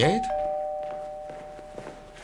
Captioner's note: doorbell rings